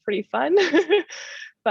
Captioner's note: laughter